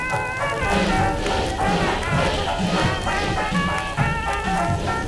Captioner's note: squeak squeak, repeated ad nauseum